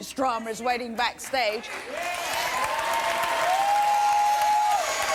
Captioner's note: applause and cheers